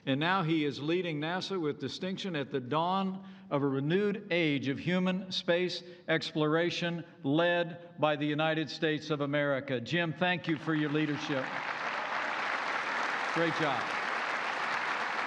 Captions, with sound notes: and now he is leading NASA with distinction at the dawn of a renewed age of human space exploration, led by the United States of America. Jim, thank you for your leadership. (Applause.) Great job.